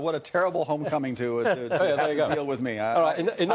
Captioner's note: laughter